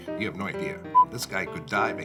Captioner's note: beeping